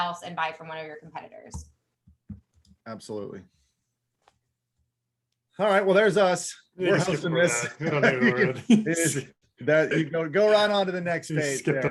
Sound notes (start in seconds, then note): 8.2 mumbling